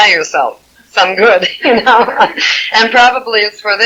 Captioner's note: laughing